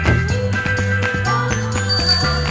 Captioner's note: bike bell dings